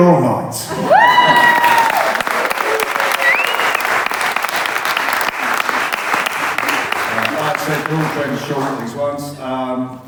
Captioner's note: whoops & applause